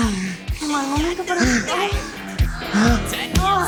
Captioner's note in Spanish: Gemidos